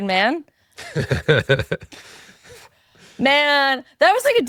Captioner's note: laughing